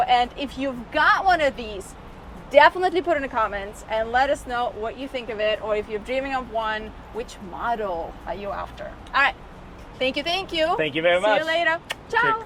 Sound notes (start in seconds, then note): 11.8 mouth kissing